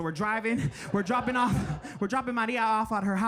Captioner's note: audience laughing